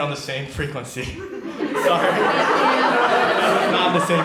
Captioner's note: audience laughs